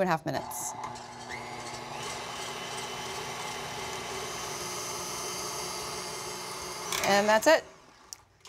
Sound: mixer running

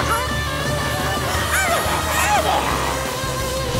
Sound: squeaking

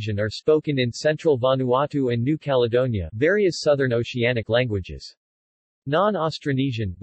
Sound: various Southern Oceanic languages

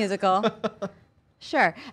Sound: laughter

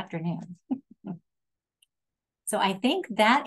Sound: laughing

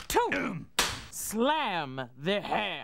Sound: cracks pointer

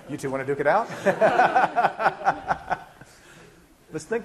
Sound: laughing

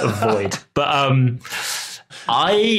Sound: chuckles

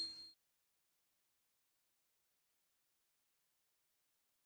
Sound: silence

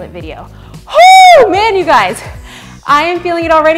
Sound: shouts

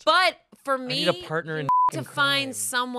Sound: beep

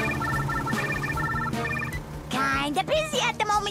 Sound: phone ringing

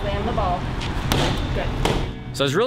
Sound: ball thudding

